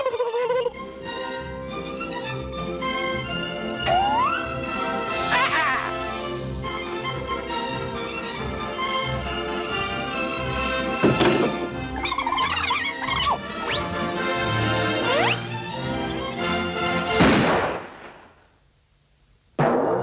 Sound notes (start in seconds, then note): 0.2 Bugs taunting; 5.3 dog pleading; 11.0 gun crashing; 11.9 chipmunk chittering; 17.1 gun banging